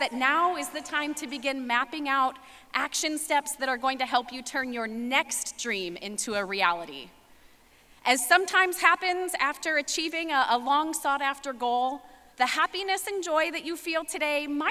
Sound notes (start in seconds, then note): none